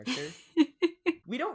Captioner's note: laughs